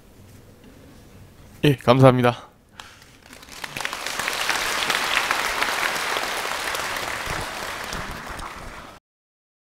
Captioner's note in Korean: 청중 박수